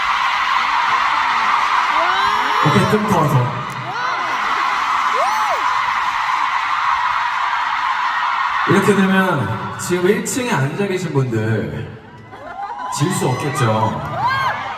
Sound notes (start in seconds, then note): 3.6 scream